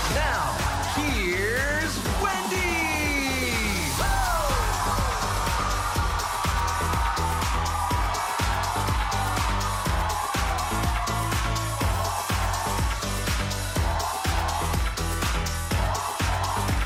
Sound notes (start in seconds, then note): 5.6 lively music; 7.7 audience cheers